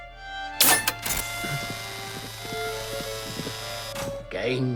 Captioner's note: machine clanks; currents buzzing